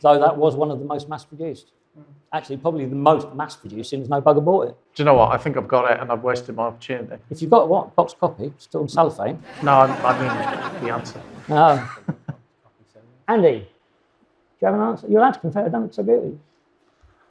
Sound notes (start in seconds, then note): 9.4 audience laughs